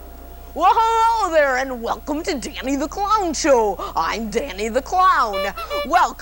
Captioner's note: clown horn